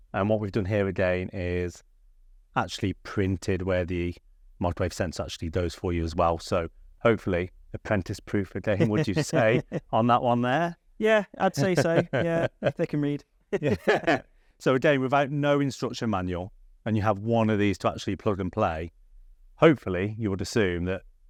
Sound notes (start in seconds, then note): 11.5 laughing; 13.5 they chuckle